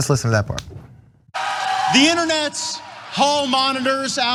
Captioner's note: applause